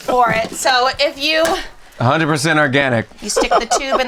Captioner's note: laughs